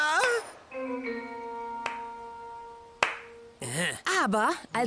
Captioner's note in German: klatscht ironisch